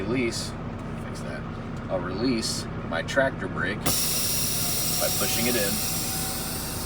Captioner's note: air brake engaging